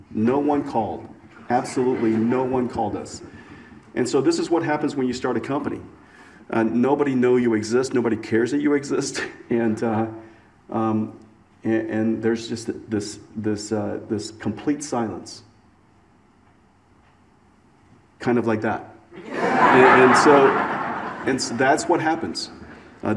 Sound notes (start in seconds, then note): 19.2 audience laughs